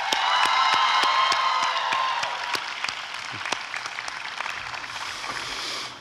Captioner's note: applause and cheering